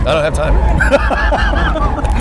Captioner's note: laughs